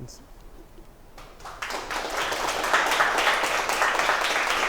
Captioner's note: applause